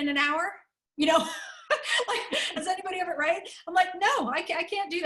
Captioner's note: laughter